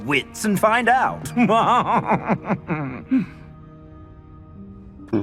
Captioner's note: fancy laugh